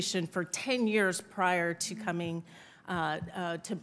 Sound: none

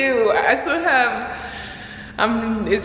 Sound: sighs deeply

